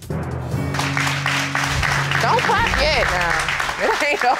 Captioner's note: crowd clapping